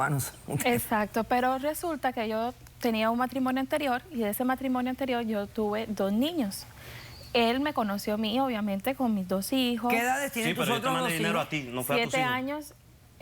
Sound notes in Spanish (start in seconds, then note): 9.4 Hablan al unísono